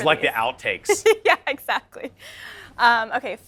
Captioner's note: interviewer laughs